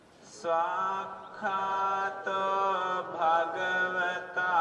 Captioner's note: chanting continues